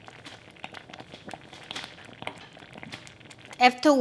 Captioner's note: bubbling intensifies